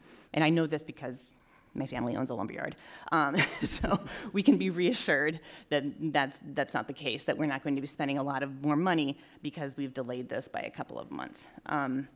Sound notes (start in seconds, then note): 3.5 chuckle